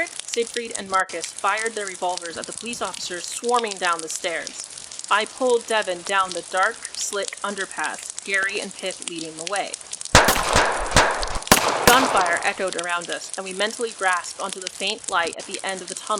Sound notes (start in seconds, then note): 10.9 footsteps on wet pavement